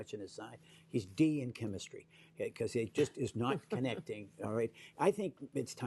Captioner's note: laughter